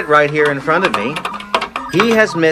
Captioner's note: keyboard clicking